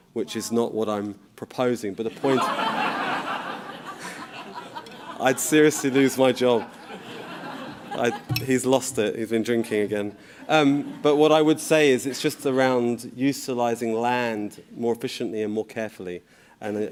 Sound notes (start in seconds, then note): 2.1 crowd laughs